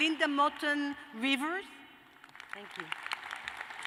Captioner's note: applause